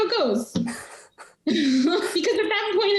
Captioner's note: laughing